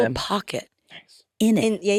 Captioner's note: participants chattering